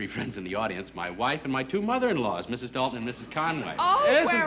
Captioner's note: none